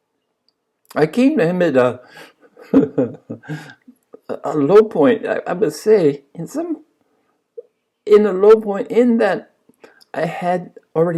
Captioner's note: laughs